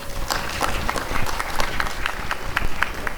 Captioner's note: applause and cheering